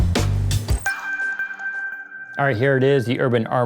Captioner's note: bells chime